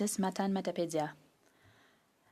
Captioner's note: speaking French